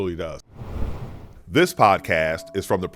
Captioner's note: screen whooshes